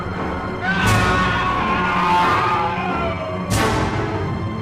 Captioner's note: man screaming